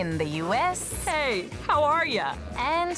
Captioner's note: american accent